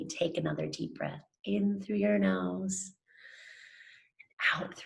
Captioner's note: inhales deeply